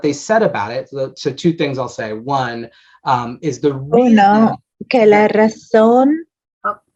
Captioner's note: offscreen spanish interpreter speaks briefly